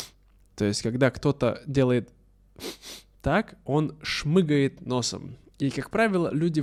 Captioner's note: шмыгает носом